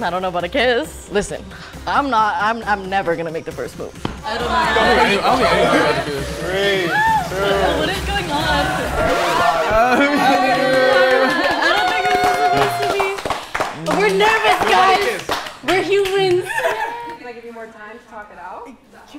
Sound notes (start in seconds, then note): 8.1 record scratches; 10.6 group claps